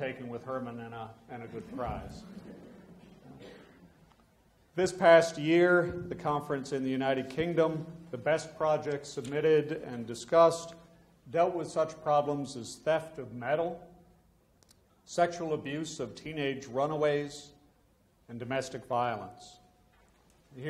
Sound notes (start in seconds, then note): 2.2 audience laughs